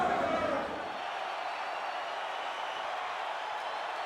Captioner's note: spectators cheering